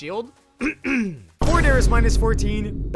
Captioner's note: clears throat